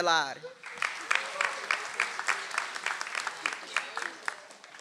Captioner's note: audience applauds